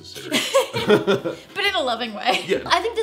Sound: laughing

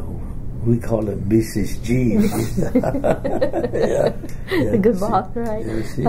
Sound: both laugh

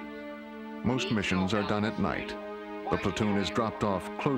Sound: voiceover

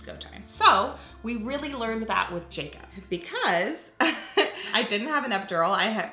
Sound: laughs

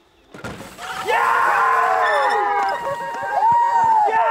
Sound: cheering

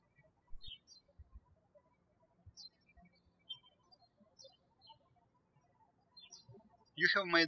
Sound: birds chirping

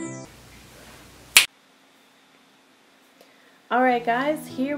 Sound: finger snap

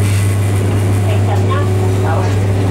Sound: Cantonese

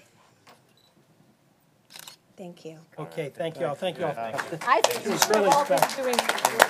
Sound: applause

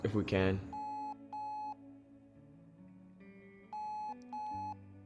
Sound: phone ringing

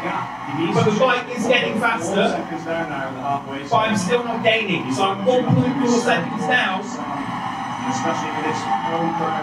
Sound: applause

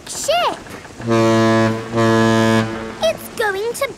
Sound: ship horn blowing

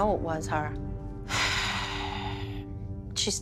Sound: sighs deeply

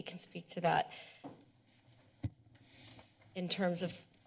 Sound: pause

